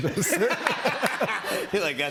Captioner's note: laughter